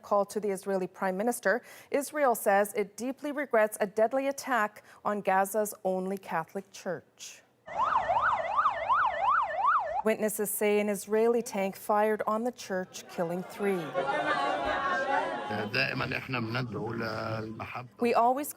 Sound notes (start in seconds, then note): 9.8 sirens